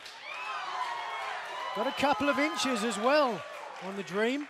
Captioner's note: cheers and applause